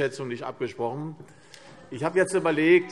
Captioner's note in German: Zurufe SPD